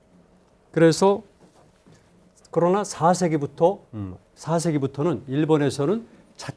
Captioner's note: speaking in Korean